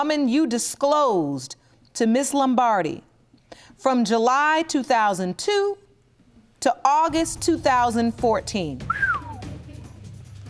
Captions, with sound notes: disclosed to Ms. Lombardi from July 2002 to August 2014? (WHISTLES)